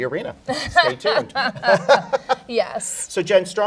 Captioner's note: laughing